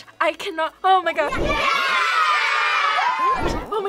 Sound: children cheering

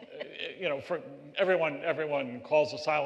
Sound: laughter

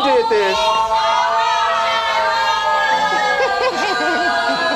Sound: people cheering; laughing

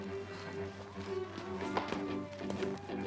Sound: cheering

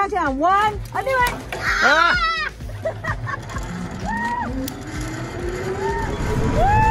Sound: screams

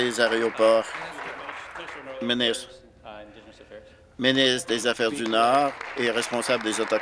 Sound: applause

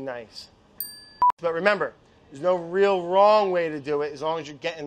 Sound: beeps

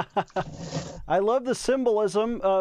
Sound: laughs

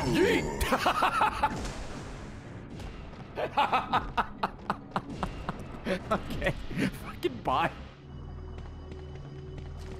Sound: laughs

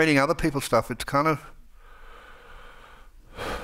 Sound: sighs

